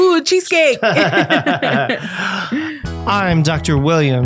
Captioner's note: both laughing